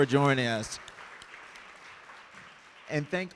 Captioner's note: audience clapping